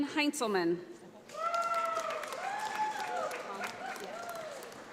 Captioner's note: audience applauds